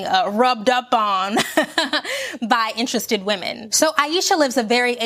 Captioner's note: laughs